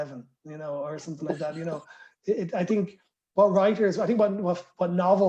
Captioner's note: laughter